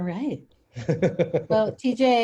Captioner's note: laughs